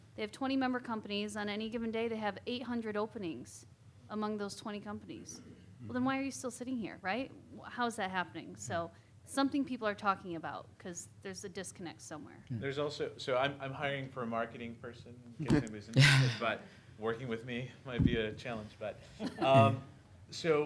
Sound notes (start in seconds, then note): 15.9 audience chuckling